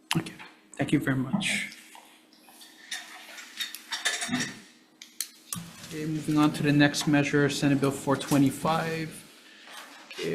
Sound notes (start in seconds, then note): 3.4 chair rattling